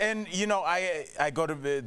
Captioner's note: laughter